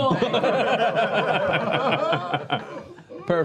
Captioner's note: laughter